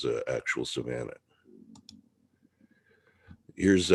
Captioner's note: mouse clicking